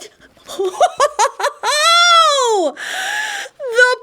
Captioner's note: not-horrible laughter